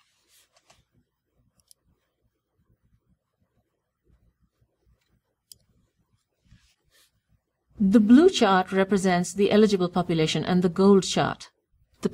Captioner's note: pause